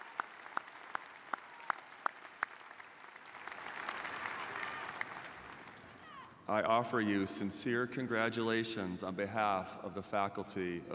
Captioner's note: applause